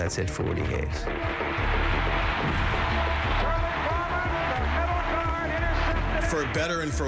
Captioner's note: crowd cheering